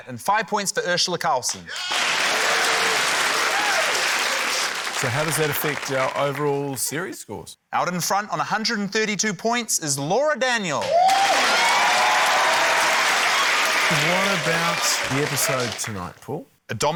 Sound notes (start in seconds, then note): 1.7 cheering, applause; 10.8 cheering, applause